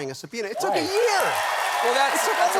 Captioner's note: cheers and applause